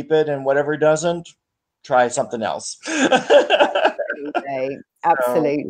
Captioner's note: laughs